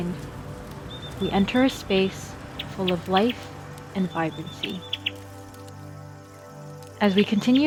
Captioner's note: chirping continues